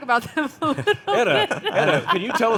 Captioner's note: panelists chuckling